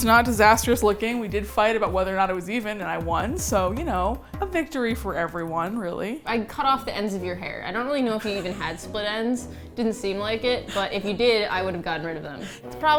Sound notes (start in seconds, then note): 8.0 laughs